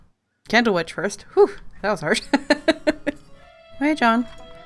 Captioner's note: laughs